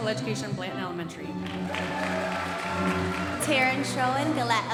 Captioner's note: audience applauding